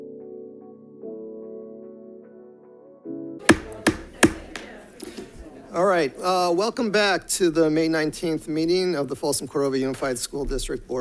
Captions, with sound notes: (light airy music) (gavel bangs) All right, welcome back to the May 19th meeting of the Folsom Cordova Unified School District